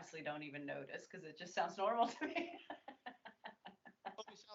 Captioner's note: laughs